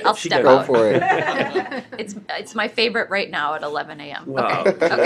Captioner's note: laughter